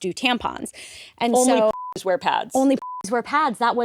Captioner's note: beep